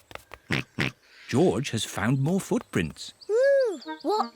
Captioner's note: snorts